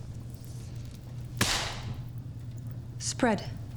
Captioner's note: tape snapping